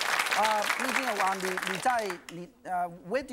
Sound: speaking in foreign language

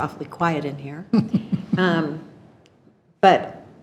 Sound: attendees chuckling

